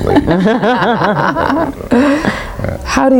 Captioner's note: everybody laughs